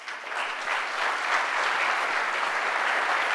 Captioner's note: applause